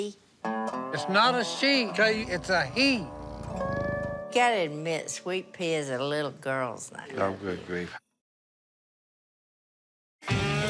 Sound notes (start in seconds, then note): 1.6 purring